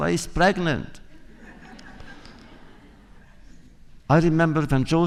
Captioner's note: laughter